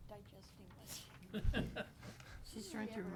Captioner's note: laughs